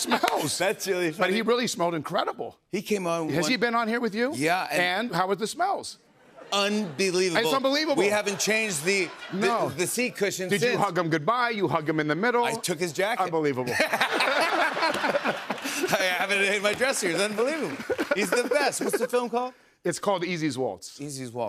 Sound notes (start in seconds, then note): 13.6 laughter